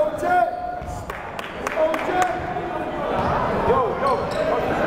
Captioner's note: yelling